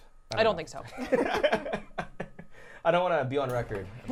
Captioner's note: laughing